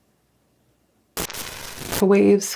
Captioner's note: glitch static